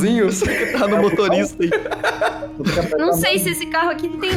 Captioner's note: laughs